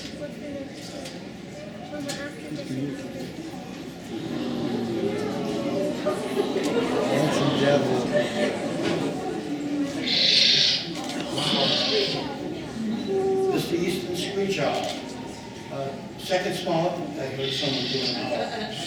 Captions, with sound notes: [EXCITED CHATTERING] -Handsome devil. [OWL WAILING] -This's the Eastern Screech Owl. uh second smallest...I heard someone do an owl.